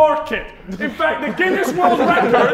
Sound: Sidemen laughing

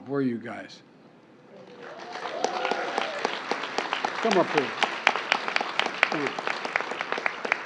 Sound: applause

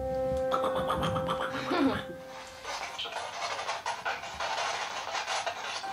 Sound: imitation of spirit box juddering

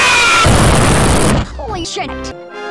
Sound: kablooey

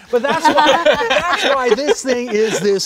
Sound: all laughing

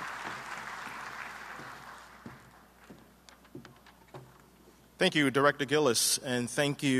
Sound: applause

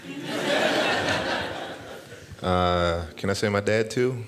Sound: laughter

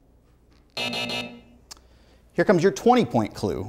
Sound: buzzer sounds

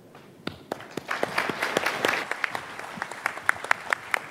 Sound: audience applauding

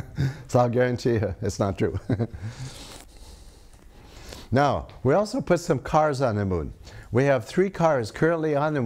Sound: laughs; laughs

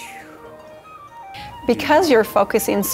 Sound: makes whooshing sound

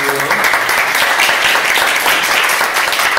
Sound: applause

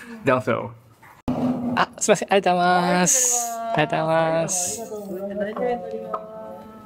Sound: speaking in japanese

